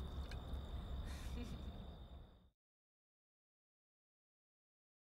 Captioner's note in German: Gruppe kichert